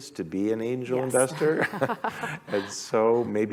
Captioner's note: laughter